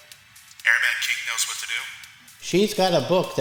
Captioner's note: Gabe on radio